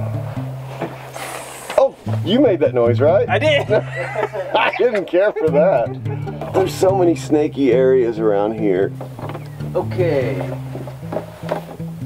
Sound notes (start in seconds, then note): 0.5 towel rustles; 3.4 laughs